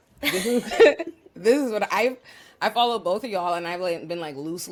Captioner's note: laugh